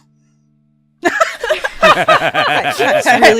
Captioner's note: laughter